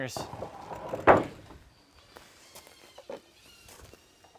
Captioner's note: wood thumping